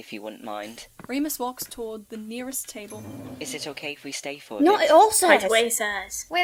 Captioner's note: footsteps, scraping of a chair on the floor